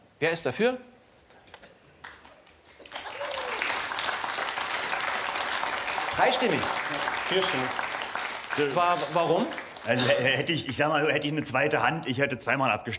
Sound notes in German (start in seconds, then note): 4.3 Applaus